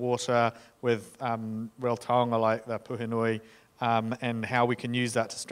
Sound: speaking in foreign language

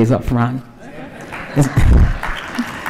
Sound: applause

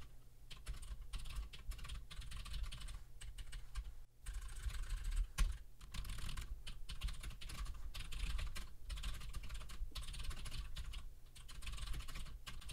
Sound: typing sounds

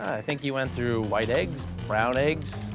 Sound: none

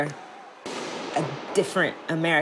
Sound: gunfire booms

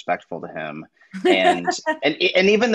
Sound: laughs

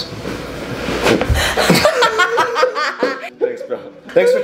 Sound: everybody laughing

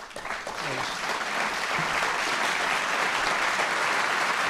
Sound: audience applauds

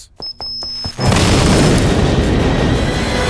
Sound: boom

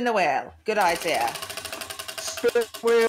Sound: wheel ticking

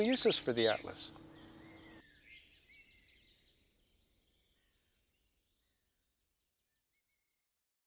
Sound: birds whistling

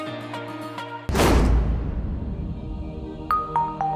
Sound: slaming noise

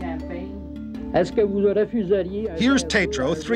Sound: speaking French

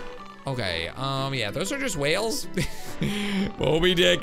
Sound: laughs

